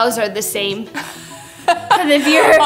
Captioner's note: laughs